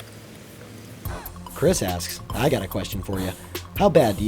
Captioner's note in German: Voice-over